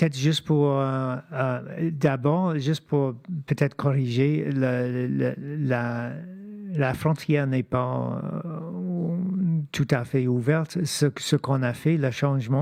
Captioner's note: speaking French